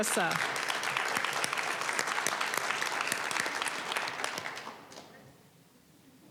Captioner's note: applause